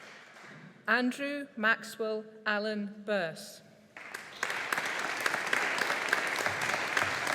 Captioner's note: audience applauding